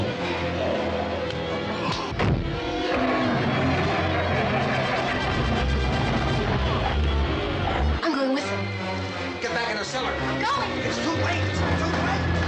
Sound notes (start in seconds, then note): 1.8 engine cranking; 3.8 engine starts